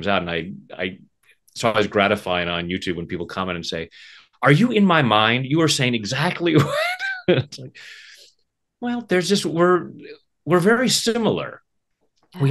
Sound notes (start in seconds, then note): 6.6 laughing